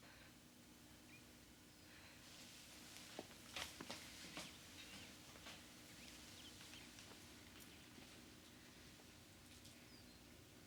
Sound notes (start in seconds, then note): 1.7 birds chirping